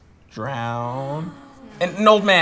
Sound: coworkers gasp

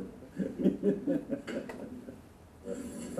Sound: laughter

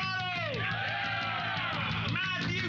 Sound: cheers and applause

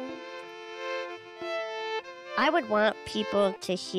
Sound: speaking over music

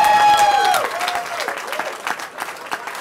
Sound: cheering

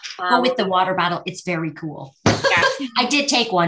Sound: laughs

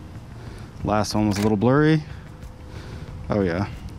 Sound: shutter closes

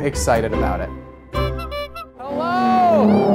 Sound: bike horn

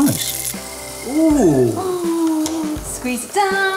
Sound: waffle maker sizzles

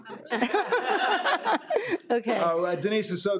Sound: people laughing

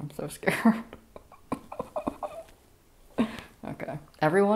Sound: nervous laughter

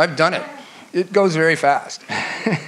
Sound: laughs

